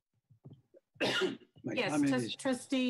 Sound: coughs

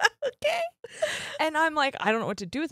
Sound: both laughing

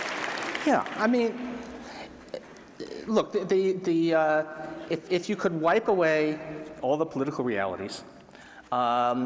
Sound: applause

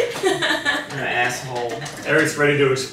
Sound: laughing

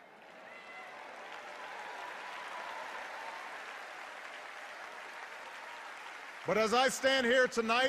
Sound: cheers and applause

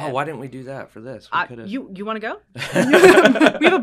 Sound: laugh

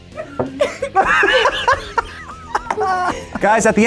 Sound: group laughs

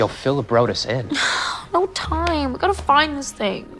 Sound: sighs

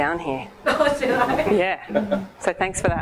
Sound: laughs

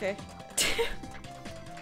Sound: laughs

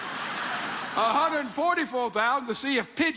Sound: audience laughs

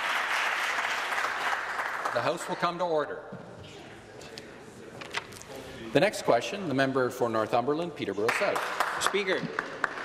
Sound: applause

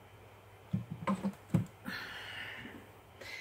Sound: cane clunking

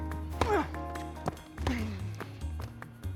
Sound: ball bouncing; racket smacking; Marshall grunting; Phillip grunting; racket smacking; ball bouncing

